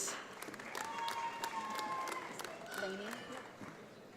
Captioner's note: audience applauds